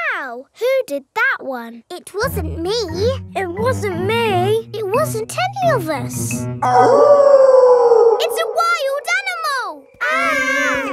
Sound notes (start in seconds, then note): 6.6 wolf howling loudly; 9.9 kids yelling